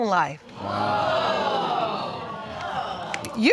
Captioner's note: audience exclaims